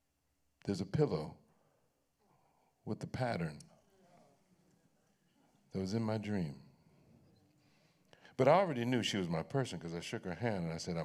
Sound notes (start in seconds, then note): none